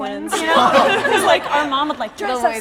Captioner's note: laughs